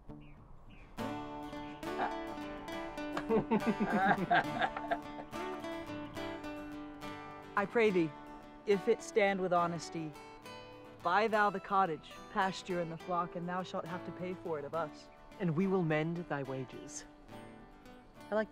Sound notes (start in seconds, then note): 1.1 bright music; 1.2 all laughing